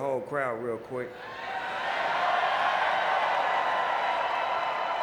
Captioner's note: audience cheering